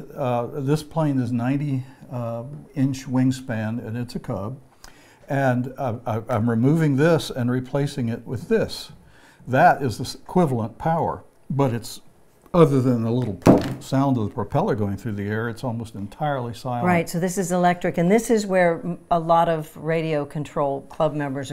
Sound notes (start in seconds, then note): 13.3 pounding